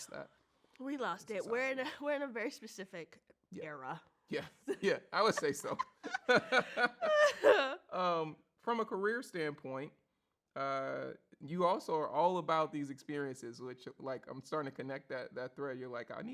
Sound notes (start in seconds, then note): 5.1 both laugh